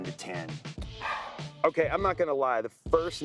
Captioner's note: exhales